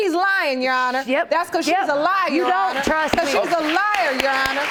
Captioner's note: audience clapping